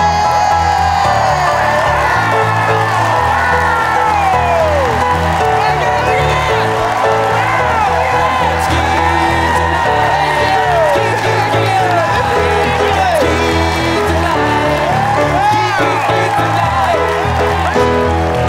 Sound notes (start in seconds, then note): 0.1 audience cheering; 12.1 audience cheering